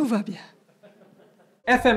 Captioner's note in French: rires